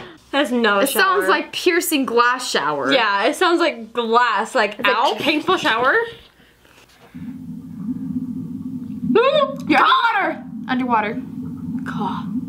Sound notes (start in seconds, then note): 7.1 low rumbling; 7.2 trills